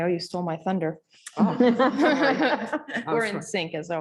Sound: laughter

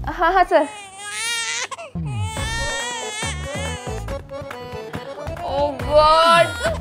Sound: baby is crying

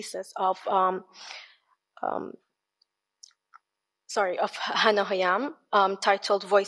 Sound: speaks in foreign language

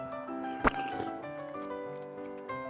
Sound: slurping

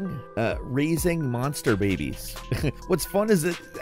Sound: chuckles

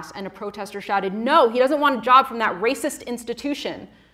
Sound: none

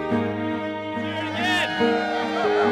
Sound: cheering

